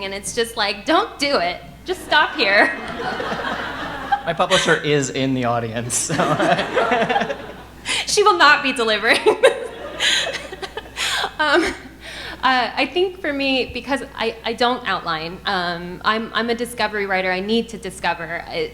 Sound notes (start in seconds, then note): 2.7 audience laughing; 6.3 laughs; 6.8 audience laughing; 10.4 chuckles